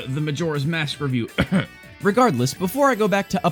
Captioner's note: cough